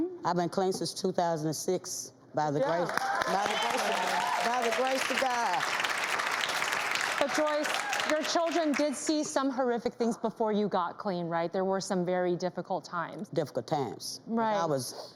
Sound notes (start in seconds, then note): 2.6 audience applauding